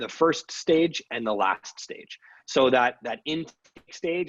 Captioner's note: audio distorted